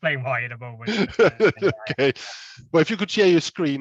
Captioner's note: laughs